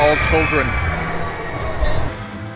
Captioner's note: kids screaming in excitement in the background